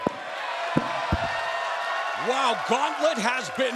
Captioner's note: crowd cheering